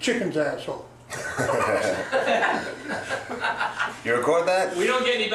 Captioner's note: laugh